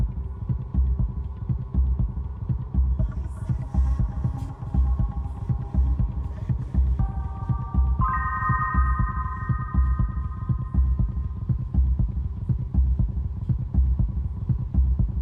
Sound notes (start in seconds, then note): none